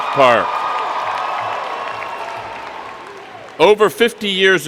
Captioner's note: cheers and Applause